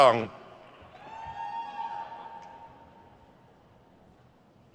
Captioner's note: crowd cheers